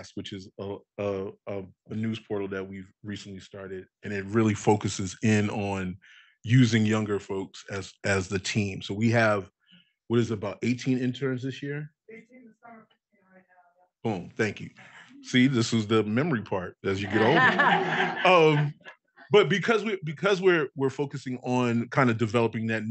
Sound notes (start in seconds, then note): 16.9 audience laughing